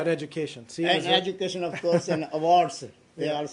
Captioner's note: laughter